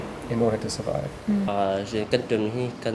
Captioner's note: in foreign language